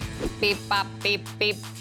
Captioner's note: imitating robot